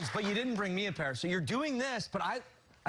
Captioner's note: cheers and applause